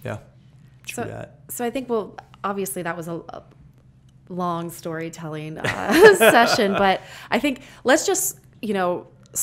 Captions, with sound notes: - Yeah. True that. - So, I think we'll, obviously that was a, long storytelling (laughter) session, but I think, let's just